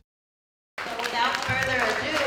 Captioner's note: applause